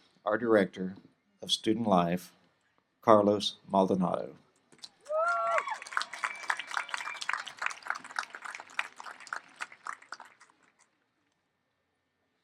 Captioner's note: applause